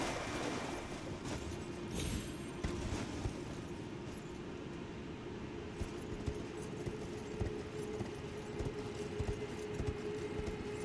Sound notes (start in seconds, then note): none